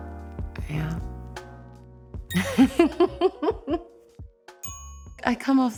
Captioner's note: laughs